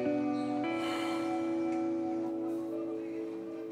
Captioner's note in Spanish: exhala